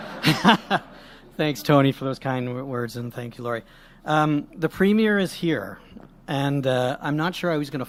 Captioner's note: laughter; laughs